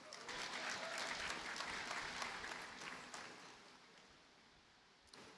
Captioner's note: audience cheers and applauds